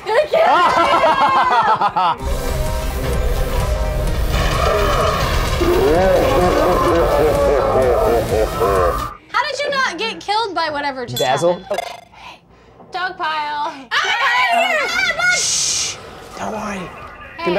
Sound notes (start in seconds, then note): 0.4 laughing; 5.7 slowed down laughter; 14.0 screaming